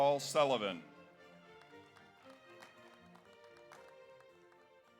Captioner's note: audience applauds